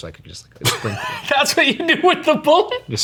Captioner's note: laughs